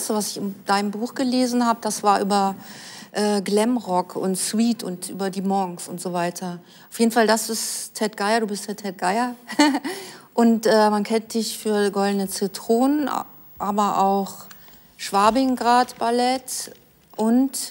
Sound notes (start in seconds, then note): 9.5 both laugh